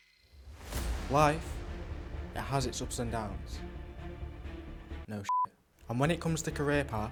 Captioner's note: beep